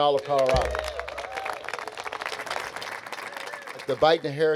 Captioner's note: audience cheering; audience applauding